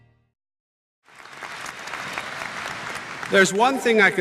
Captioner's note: applause